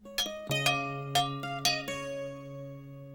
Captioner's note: tapping pot